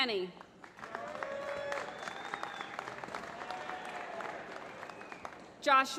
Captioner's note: applause